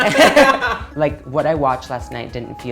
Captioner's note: both laughing